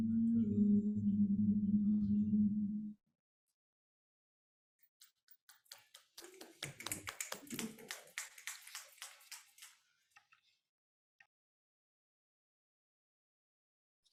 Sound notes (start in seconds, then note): 5.5 group applauding; 6.2 people cheering